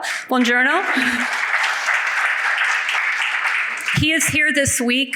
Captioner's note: audience applauds